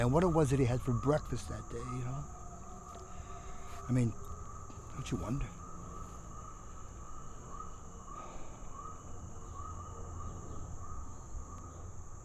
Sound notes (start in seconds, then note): 8.2 Becker sighs